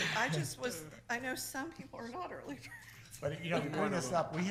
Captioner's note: laughs